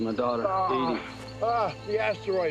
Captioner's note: moans